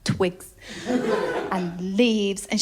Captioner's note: laughter